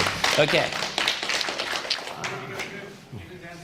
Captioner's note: applause